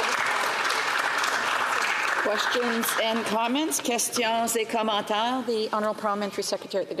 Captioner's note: some Applause